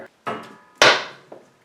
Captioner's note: something hits the floor